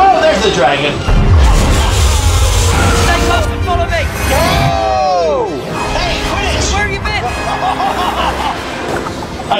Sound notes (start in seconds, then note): 4.3 screaming; 7.2 laughing